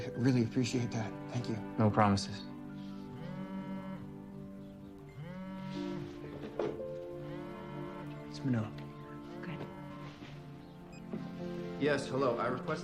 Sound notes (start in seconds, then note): 1.8 phone vibrating